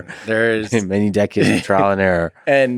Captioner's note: Tim laughs